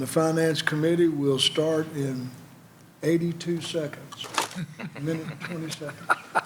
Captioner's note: laughter